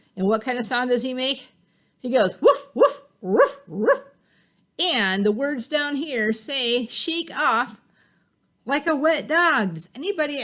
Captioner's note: barking